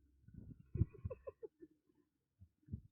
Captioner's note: giggling